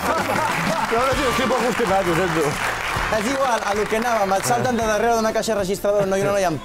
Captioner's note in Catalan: aplaudiments